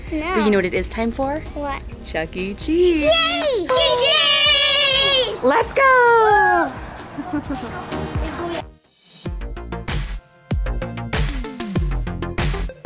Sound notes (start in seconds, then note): 3.6 cheering; 10.5 upbeat electronic music